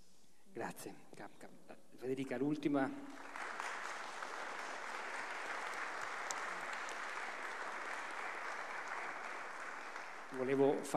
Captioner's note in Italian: Applauso